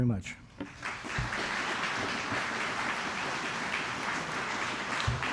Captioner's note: applause